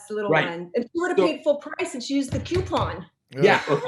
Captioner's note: bangs